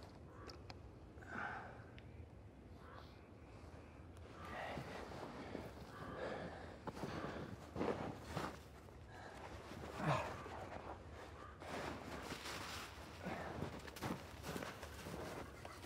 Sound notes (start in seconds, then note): 10.5 snow whirring